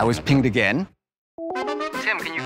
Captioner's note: call ringing